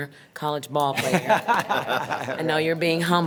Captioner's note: board members laughing